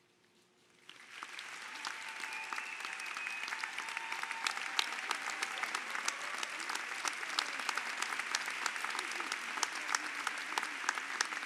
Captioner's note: applause